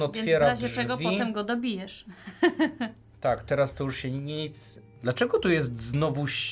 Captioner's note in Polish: śmiech